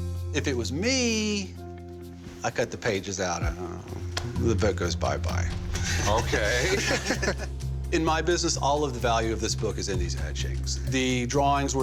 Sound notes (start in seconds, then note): 5.6 all chuckle